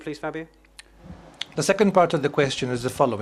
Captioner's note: speaking in italian